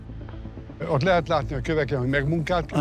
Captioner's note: in Hungarian; dubbed in English